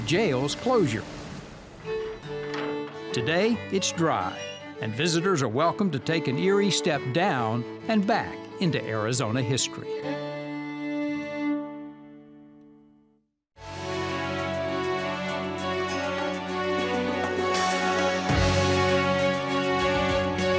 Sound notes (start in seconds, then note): 2.2 metal door opens; 13.6 gentle music ends